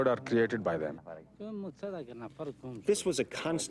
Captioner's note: man speaking in foreign language